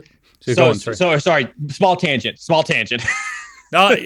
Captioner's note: laughs